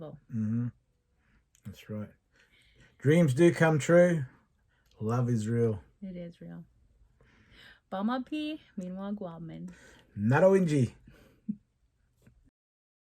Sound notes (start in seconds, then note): 7.6 speaking Indigenous Language